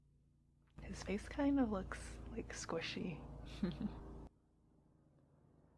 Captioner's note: giggles